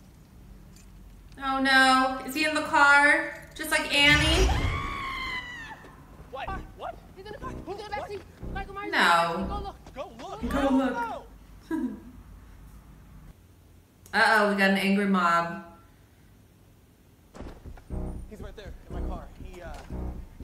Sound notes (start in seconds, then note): 4.0 loudly screaming; 11.6 chuckles